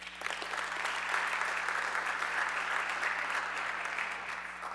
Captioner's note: audience clapping